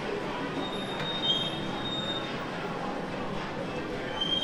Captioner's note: tires screeching